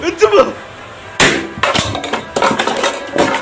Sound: balloon pops

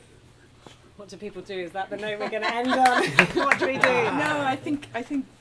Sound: laughter and clapping

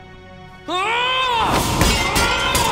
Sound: shouts

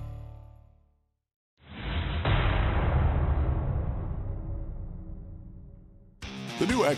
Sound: metal clash

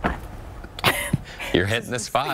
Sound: laughter

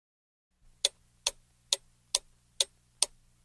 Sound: tick tock tick tock

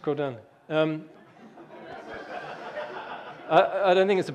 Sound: audience laughing

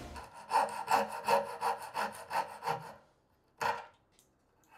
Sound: saw zings; handsaw scrapes

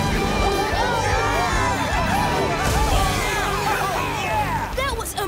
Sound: cheering

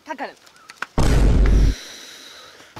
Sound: sigh

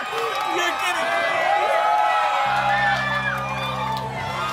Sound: applause

